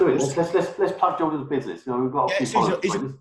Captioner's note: murmurs